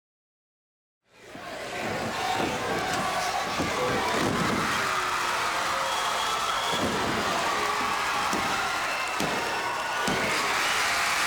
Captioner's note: crowd cheering